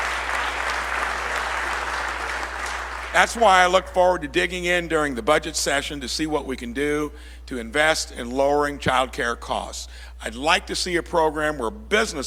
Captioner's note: applause